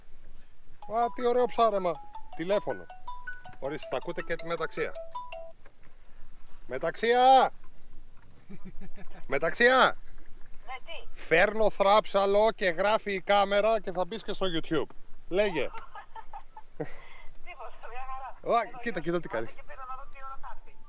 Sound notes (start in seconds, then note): 0.8 phone rings